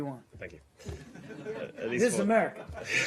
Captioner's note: laughter